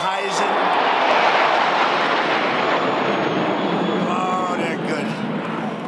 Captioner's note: sound of aircraft overhead